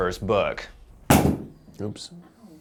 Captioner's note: clatter